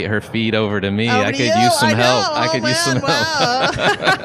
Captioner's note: laughs